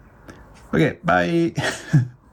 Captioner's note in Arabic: يضحك